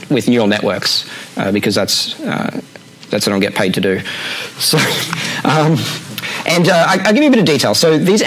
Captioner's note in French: rires